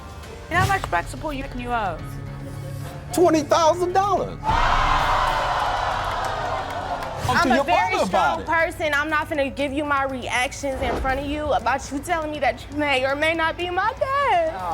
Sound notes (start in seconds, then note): 4.2 hollering